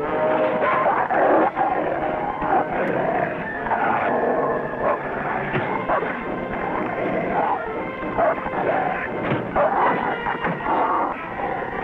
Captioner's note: suspenseful music; Rebel snarling